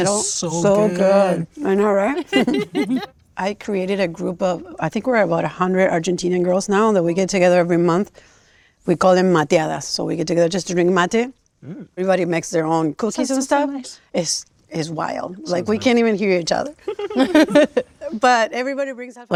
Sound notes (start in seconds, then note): 2.1 group laughing; 9.8 speaking in Spanish; 16.8 laughing